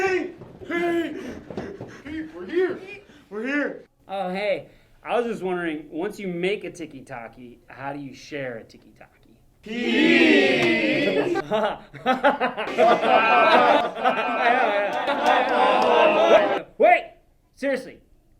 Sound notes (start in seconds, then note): 10.8 laughing; 13.4 all Laughing